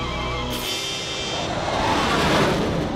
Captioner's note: whooshing